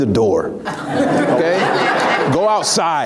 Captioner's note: laughs